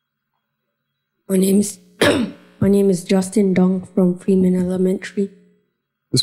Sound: cough

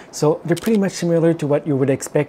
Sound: camera clicking

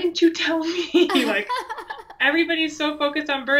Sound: laughs

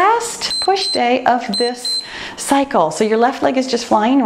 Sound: timer beeps

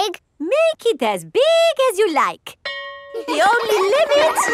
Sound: school bell rings; children laughing

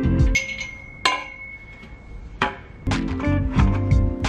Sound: poles ding

